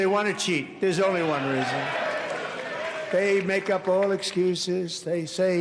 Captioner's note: applause